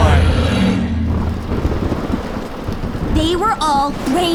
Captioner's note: thunderclap